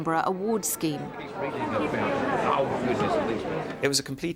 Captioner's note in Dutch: publiek mompelt